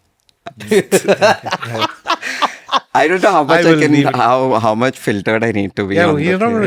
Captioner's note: laughs